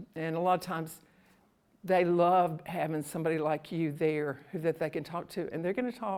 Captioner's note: none